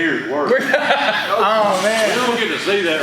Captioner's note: laughs loudly